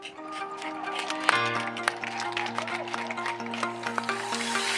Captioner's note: audience applauding